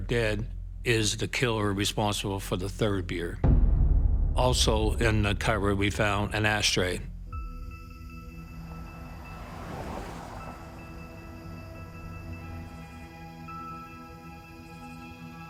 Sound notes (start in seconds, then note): 7.8 soft, tense music playing; 9.9 insects chirring